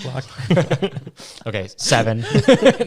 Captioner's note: all laughing